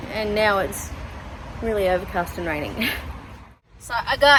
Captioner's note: scoffs